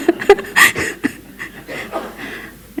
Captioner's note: laughter